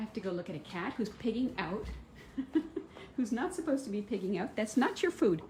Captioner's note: laughter